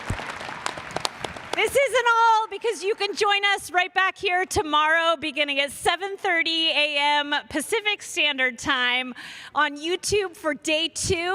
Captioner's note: cheers and applause